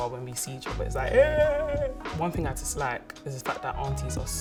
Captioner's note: celebrating sound